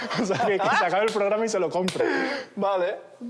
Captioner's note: laughs